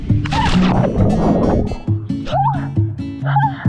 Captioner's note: water whooshes; burbles; playful music; runner shrieks